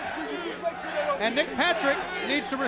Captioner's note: crowd chatter